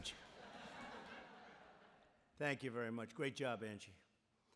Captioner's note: laughter